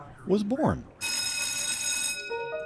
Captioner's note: bell rings; bright, upbeat music